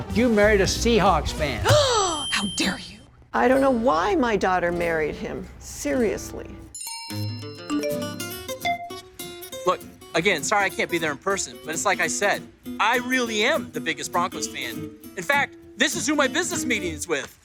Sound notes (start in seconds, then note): 1.6 inhales shockingly; 6.8 phone rings